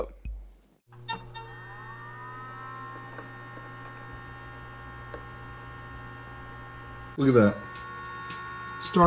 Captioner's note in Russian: Фактический запуск звук этого усилителя